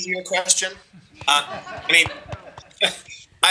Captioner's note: laughter